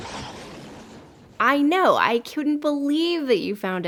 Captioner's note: hissing and growling